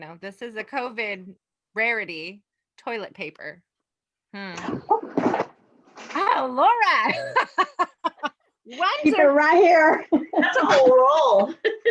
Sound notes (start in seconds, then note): 5.3 soft clatters; 7.1 laughs